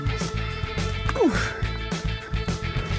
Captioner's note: grunt